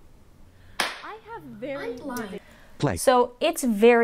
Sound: hand clap/ faint dialog, out of sync audio

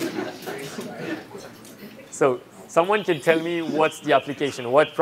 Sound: laughter

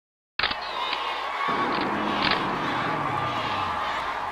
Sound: crowd cheering

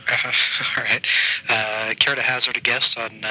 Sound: laughing

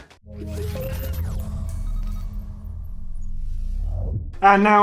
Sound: electronic beeping

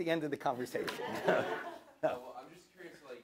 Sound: audience laughs

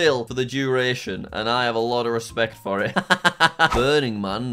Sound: laughs

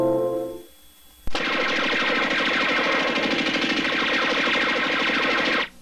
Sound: spaceship lasers lasering

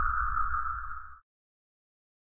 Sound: silence

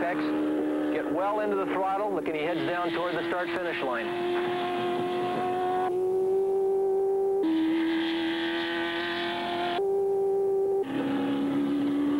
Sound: car speeds

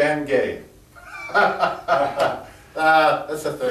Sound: laughs

